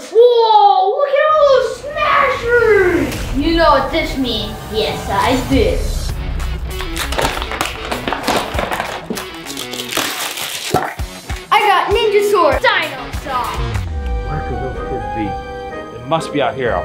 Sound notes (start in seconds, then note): 6.2 rock music; 6.9 wrappers crinkling